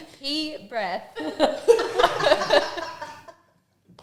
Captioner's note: laughing off camera